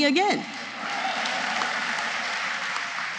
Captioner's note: applause